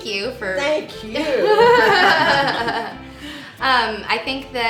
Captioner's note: laughing